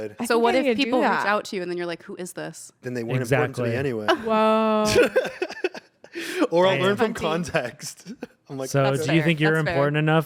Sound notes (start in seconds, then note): 4.8 laughs